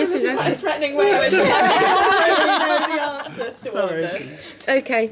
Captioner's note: laughing